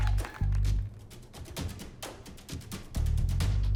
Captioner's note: applause